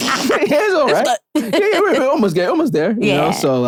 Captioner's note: laughing